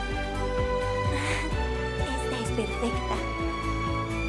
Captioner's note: Resopla